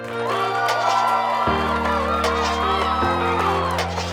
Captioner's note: audience cheering